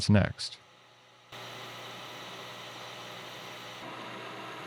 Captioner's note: machine whirring